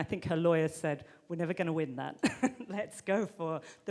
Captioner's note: chuckles